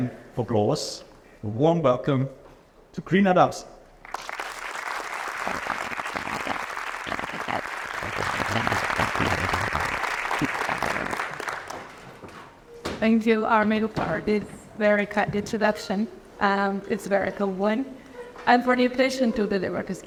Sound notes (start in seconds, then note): 8.3 applause